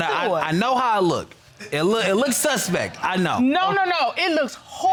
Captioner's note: stammers